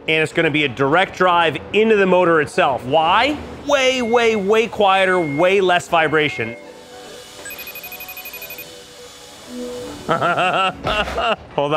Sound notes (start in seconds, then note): 7.4 phone ringing; 10.0 laughing